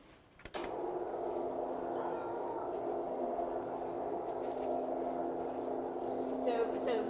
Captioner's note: screen whirrs as it ascends